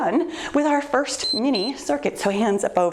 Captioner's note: timer beeps